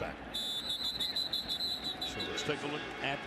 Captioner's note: whistle